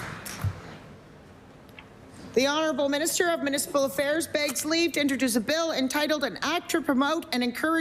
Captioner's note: applause